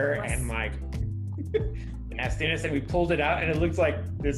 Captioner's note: laughter